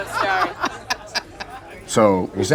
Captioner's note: laughter